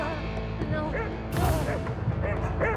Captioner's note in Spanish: ladridos